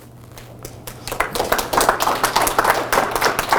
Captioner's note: clapping